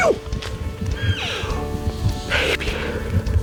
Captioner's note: elk mewing